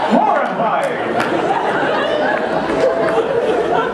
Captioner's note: laughter